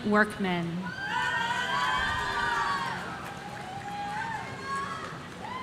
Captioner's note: audience cheering